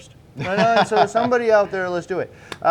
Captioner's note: laughing